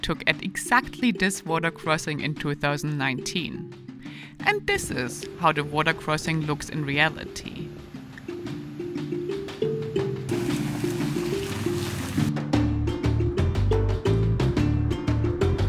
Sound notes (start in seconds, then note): 10.3 bike roaring; 13.0 upbeat music